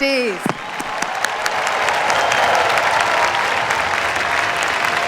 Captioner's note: cheers, applause